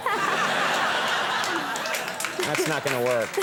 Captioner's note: audience laughing